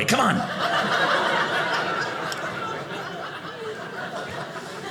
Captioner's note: audience laughing